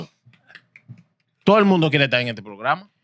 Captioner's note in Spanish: Hablando en idioma extranjero